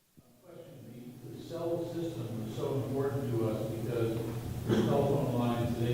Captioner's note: speaking off microphone